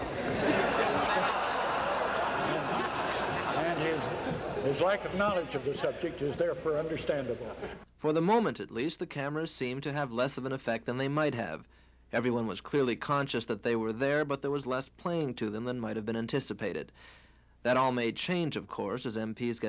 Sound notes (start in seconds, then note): 2.9 loud laughter